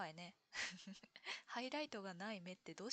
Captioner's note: laughs